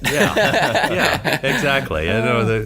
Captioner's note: all laugh